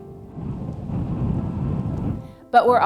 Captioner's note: wind blowing